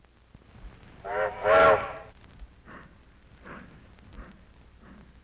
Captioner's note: train whistle blowing